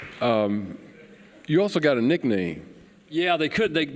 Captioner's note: applause